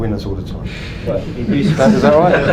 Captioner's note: laughs